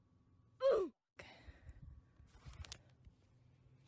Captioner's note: sigh